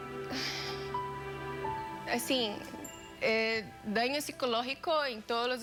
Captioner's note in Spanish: exhala